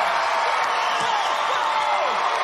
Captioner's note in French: screaming